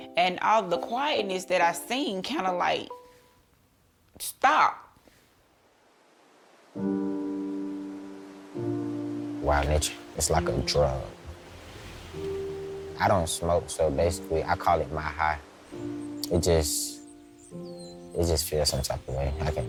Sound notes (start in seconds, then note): 5.5 water flowing; 6.9 gentle music